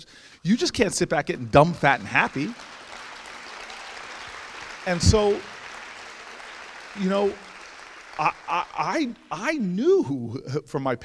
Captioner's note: audience applauds